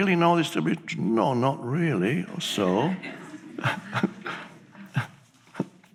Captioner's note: chuckles